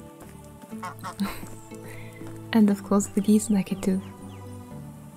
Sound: goose quacks

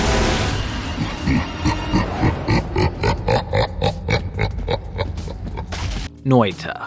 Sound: loud creepy laugh

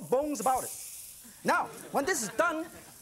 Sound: sizzling

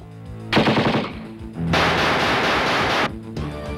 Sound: gunshots

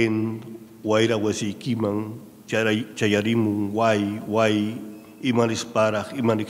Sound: speaking in a foreign language

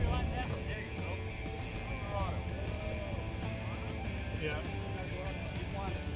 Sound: men talking in background

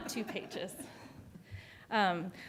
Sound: laughter

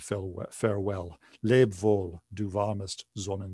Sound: speaking german

